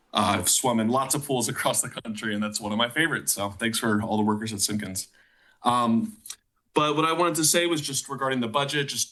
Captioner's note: none